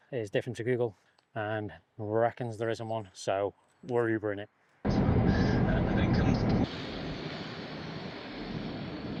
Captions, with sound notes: is different to Google and reckons there isn't one. So we're Ubering it. (car and radio noises)